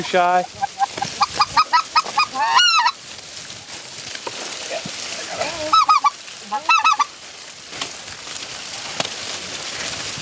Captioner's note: goose calls